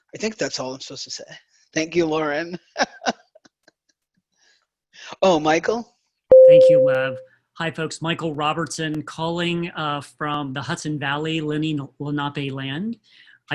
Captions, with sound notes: I think that's all I'm supposed to say, thank you Lauren (laughs). Oh, Michael? (bell rings) -: Thank you Lev. Hi folks, Michael Robertson, calling from the Hudson Valley, Lenni Lenape land.